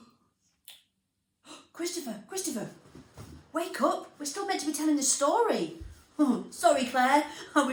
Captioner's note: gasp